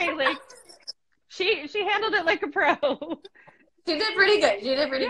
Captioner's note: laughs